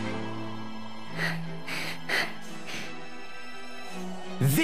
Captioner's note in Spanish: Huff, huff